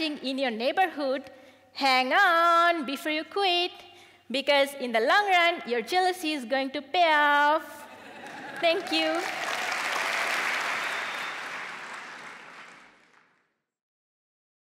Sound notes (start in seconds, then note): 7.9 laughter; 8.0 applause